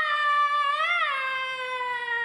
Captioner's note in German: Tarzanschrei